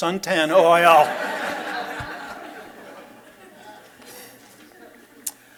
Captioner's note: laughter